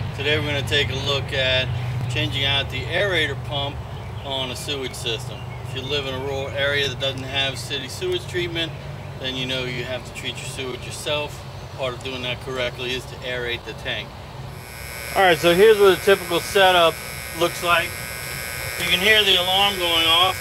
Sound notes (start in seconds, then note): 14.5 alarm buzzer heard